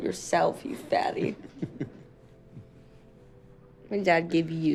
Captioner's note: chuckling